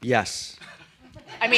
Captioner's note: laughter